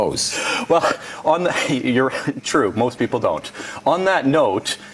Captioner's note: laughs